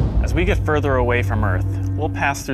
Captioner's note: voiceover